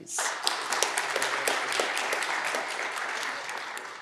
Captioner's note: audience clapping